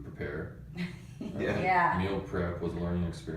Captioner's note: laughs